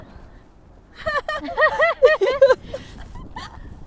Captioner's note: haha